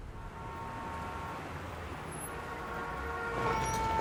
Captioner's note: traffic sounds